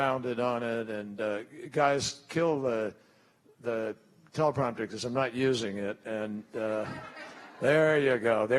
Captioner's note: laughter